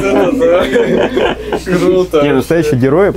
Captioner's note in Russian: смех